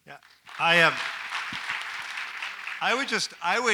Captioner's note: audience applauds